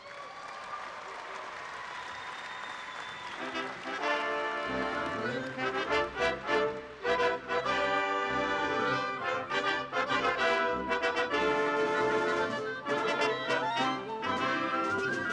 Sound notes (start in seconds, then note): 1.7 cheers and applause